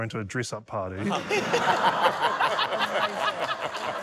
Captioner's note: laughter, applause